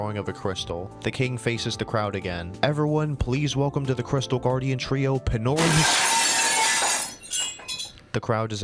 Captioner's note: glass shattering